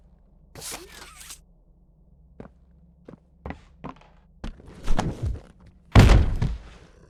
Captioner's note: footsteps; thuds